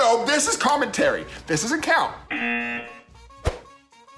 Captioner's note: buzzer